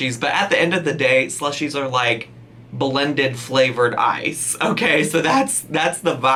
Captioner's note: laughs